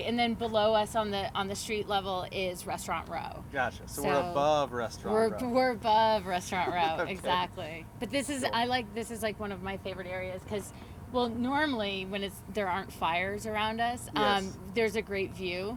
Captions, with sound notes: - Right, and then below us on the street level is Restaurant Row. - Gotcha. So we're above Restaurant Row. - We're above Restaurant Row, exactly. (laughs) - Sure. - This is, like, one of my favorite areas cause, well normally when there aren't fires around us, there's a great view.